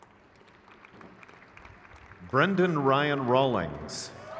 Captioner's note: crowd cheers